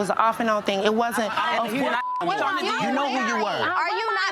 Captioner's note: beep